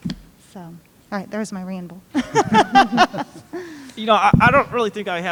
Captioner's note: laugh